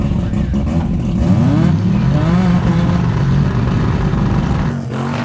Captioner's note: engines revving